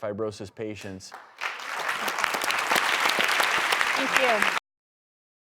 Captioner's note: applause